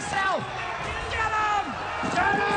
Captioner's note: mob shouting